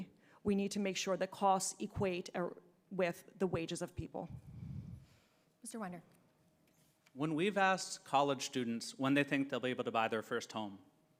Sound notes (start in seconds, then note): 4.3 breathes into microphone